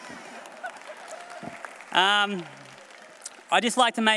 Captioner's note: applause